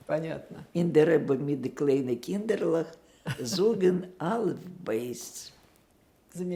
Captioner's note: yiddish